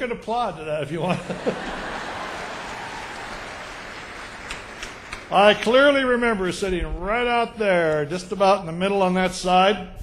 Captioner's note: laughter